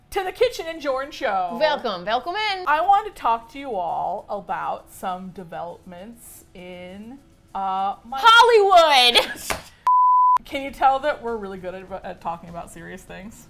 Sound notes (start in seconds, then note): 9.0 laughs